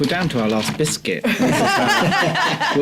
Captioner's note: laughs